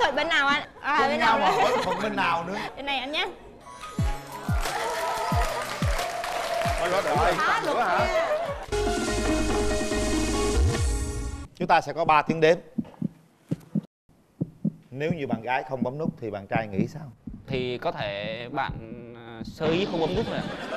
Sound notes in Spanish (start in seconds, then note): 4.4 aplausos; 8.6 música de fondo; 14.3 sonidos de latidos del corazón; 19.8 risas